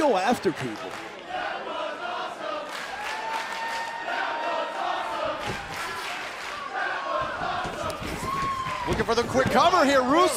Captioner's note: crowd cheering